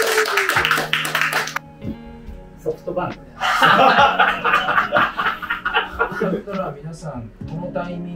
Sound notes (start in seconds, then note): 3.4 laughing